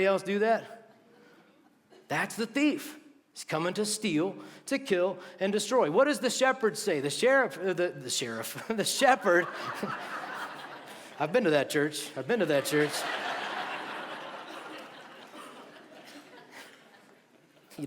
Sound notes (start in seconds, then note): 10.0 laughter